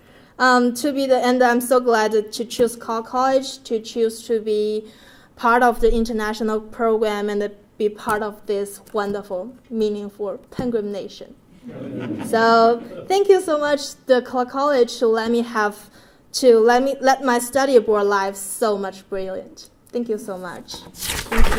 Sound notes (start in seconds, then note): 11.6 laugh